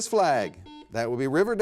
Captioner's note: buzzer beeps